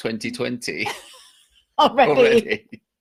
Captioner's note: laughs